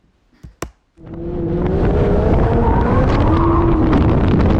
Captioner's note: engine roaring